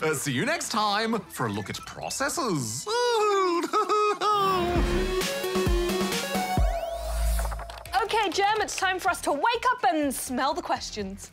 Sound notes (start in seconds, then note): 2.8 laughs